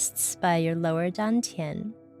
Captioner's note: woman speaking in foreign language